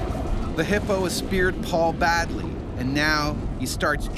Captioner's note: voiceover